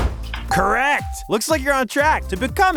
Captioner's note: bell ringing